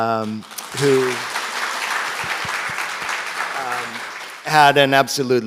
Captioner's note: audience applauds